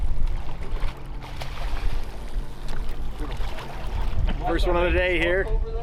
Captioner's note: fish splashing